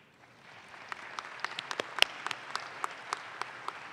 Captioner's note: audience claps